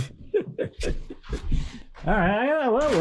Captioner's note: speaker laughing